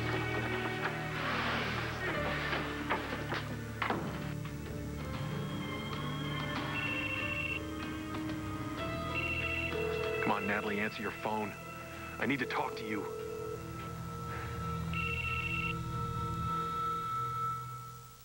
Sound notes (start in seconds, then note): 8.2 phone rings; 14.8 ring